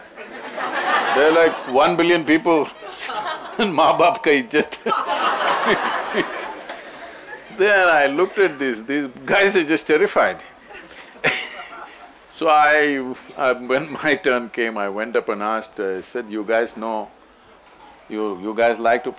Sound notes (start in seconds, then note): 4.5 laughter; 10.3 laughs